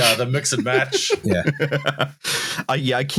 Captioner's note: laughs